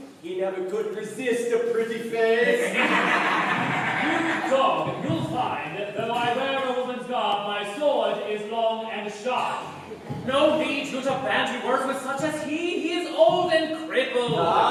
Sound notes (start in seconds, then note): 2.5 the BROTHERS roar with laughter